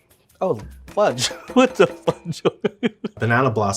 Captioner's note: laughing